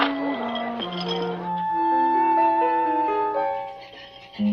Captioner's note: ice clinking